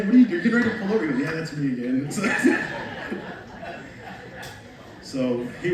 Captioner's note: laughs